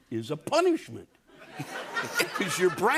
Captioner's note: laughter